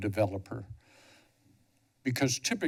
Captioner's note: pause